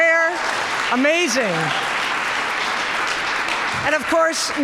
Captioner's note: audience applauding